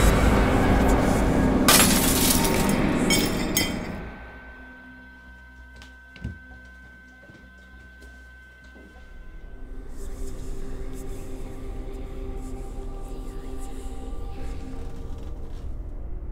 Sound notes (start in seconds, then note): 1.6 glass shattering; 10.2 eerie whispering